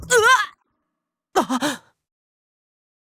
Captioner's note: gasp